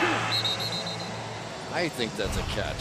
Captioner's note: whistle